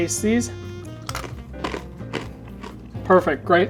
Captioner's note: bread crunching